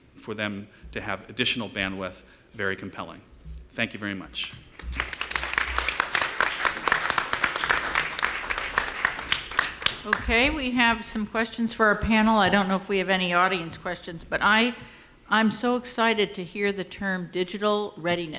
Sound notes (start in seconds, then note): 4.7 applause